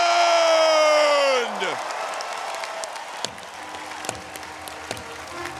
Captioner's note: audience applauding